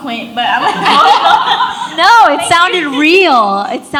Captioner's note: audience laughs